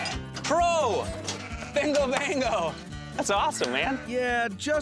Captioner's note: high-five clap